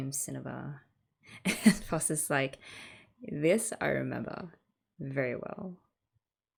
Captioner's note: laughs